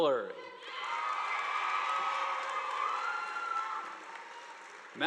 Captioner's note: audience applauding